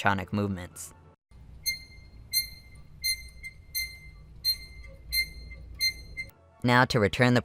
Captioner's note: squeaky Sounds